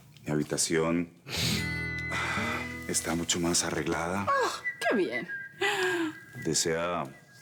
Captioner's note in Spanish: Inhala